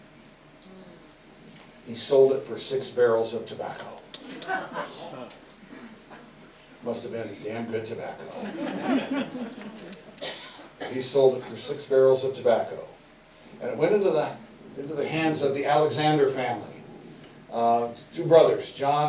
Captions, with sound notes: He sold it for six barrels of tobacco. [Audience Laughter] Must have been damn good tobacco. [Laughter] He sold it for six barrels of tobacco. And it went into the hands of the Alexander family. Two brothers John and